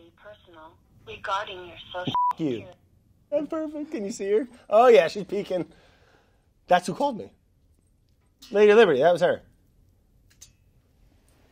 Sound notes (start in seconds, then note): 0.1 automated Voice; 2.0 beeps